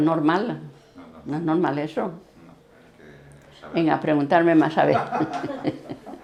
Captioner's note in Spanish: risas